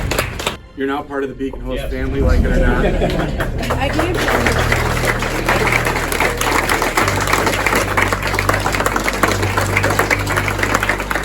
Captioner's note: applause